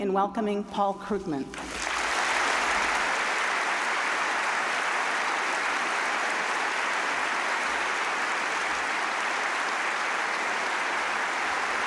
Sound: applause

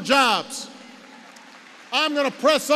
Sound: applause

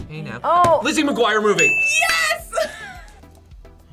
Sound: laughs

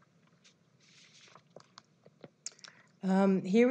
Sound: pause

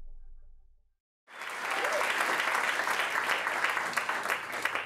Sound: clapping

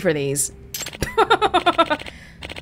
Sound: chuckles

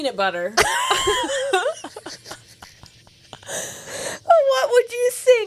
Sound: panel laughing

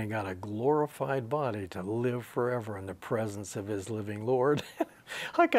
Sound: he laughs

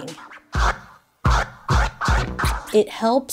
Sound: record scratching

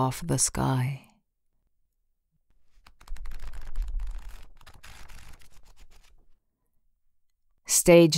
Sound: pageturning sound

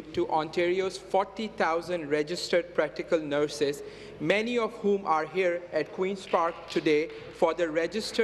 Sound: some Applause

